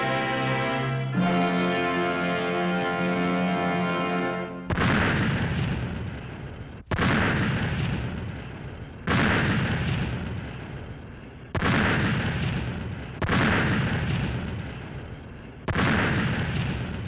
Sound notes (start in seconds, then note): 8.9 explosions